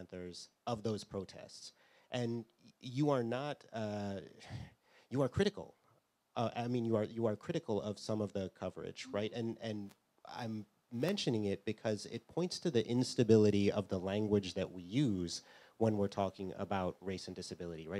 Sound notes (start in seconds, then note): 5.6 sighs